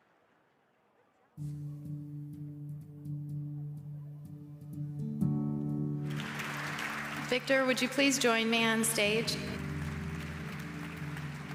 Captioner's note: applause